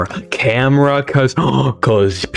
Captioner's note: inhales Oxygen